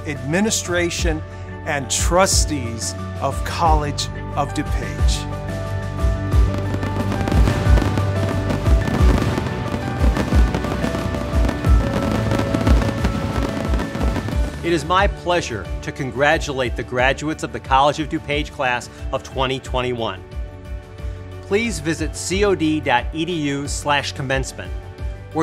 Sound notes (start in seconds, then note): 6.3 fireworks popping; 6.7 upbeat music